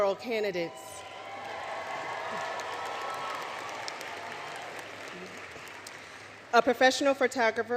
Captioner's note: cheering, Applause